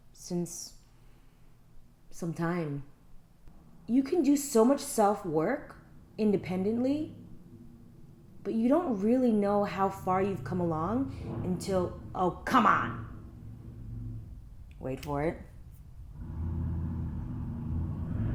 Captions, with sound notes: since... some time. You can do so much self work independently, but you don't really know how far you've come along until, oh come on! (loud traffic) wait for it. (loud car in the background)